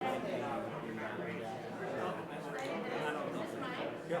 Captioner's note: group chattering quietly